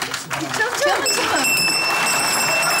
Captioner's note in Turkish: Zil sesi